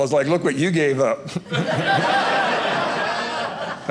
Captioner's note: audience laughing